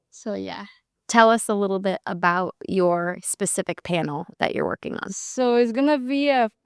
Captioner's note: speaking